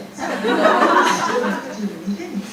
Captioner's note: audience laughing